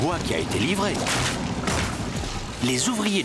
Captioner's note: thud! Thud!